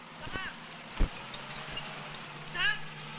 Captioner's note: Malay spoken audio